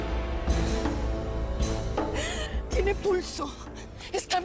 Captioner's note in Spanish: Sollozos